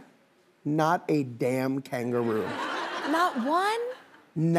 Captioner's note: audience laughing